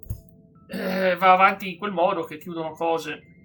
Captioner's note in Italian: schiarire la voce